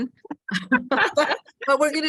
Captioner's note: both laugh